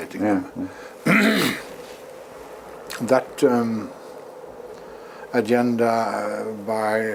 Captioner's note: cough